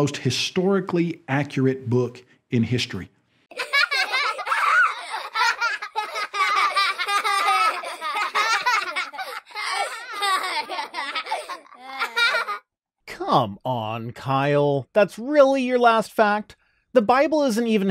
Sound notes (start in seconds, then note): 3.5 adorable baby rhino laughter ensues